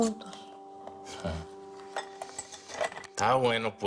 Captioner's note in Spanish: Ruidos de cristales